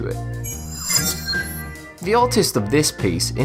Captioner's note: sharp chiming